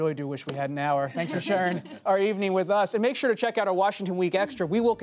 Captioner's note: laughter